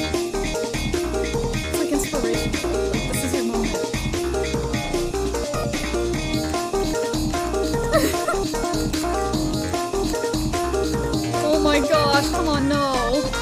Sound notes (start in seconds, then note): 0.3 music becomes more intense; 7.8 giggles